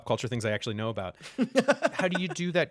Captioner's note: laughter